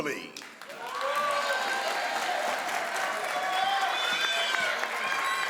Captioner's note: crowd applauds